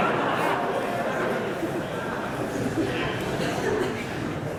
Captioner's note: laughter